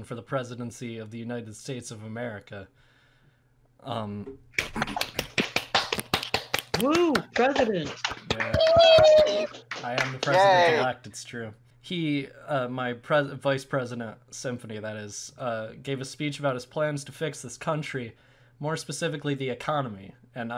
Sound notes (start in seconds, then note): 4.6 audience members applaud